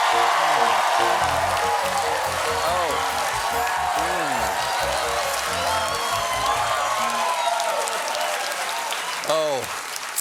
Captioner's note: cheers and applause